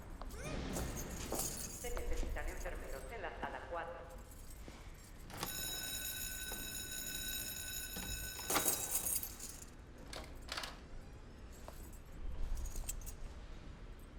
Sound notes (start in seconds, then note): 1.7 nurse on P.A; 5.4 bell ringing